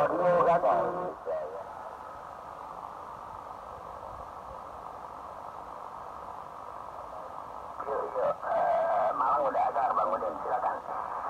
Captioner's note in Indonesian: suara dari breaker kota Malang, Jawa Timur